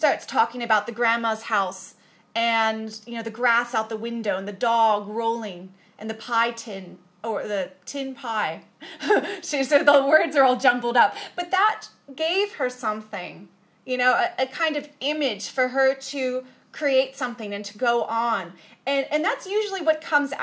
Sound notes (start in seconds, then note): 8.8 chuckles